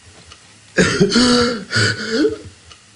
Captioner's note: gasping